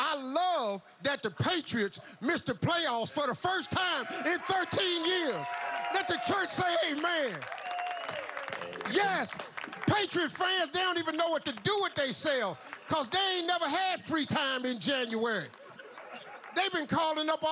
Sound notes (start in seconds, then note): 12.0 applause